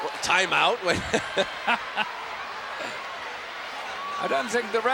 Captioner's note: both laugh